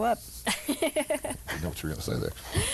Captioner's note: laughing